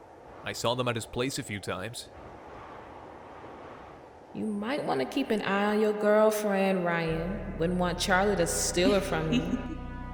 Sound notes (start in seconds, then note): 4.7 echo